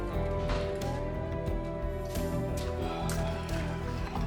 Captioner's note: door shuts; sighs